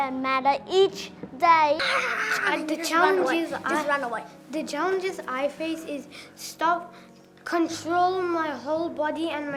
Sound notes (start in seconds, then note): 1.8 yelling